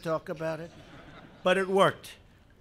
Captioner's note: laughter